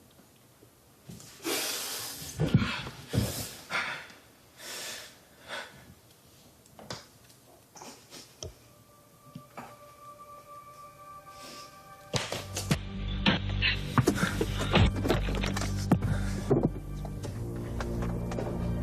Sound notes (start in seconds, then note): 7.7 sniffling; 8.8 ominous music